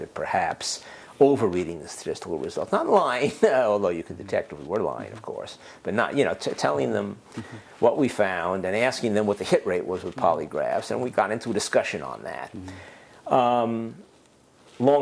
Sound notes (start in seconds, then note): 3.9 laugh